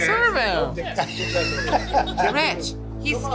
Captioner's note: laughing